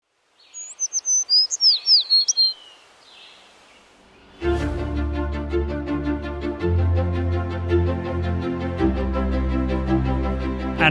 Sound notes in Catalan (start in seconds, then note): 0.4 Ocells cantant